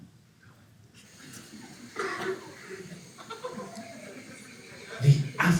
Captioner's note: nature sounds